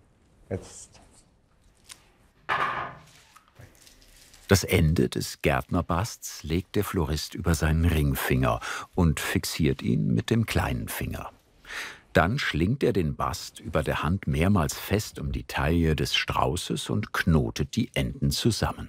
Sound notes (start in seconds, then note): 2.5 clattering tool